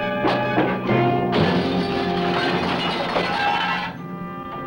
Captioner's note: dramatic music; glass breaking; sad music